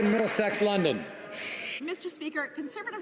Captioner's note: some Applause